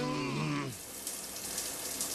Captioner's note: shower running